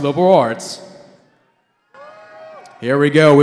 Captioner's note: cheering